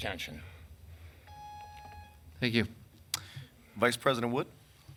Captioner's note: beeping sound